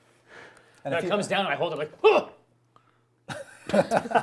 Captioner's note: laughter